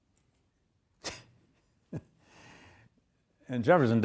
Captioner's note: lecturer chuckles